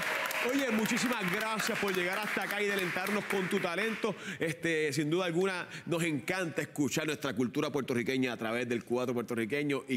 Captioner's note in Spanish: aplausos